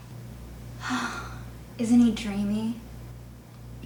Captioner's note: sighs